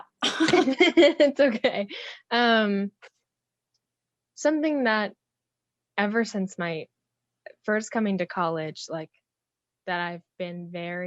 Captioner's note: laughs